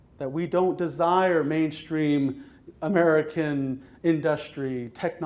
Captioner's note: none